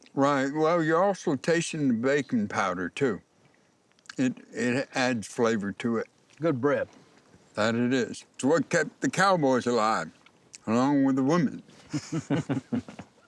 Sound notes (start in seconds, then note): 11.8 chuckling